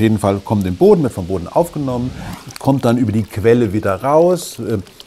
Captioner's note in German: Plätschern